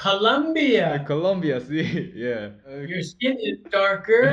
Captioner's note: Spanish spoken inadvertently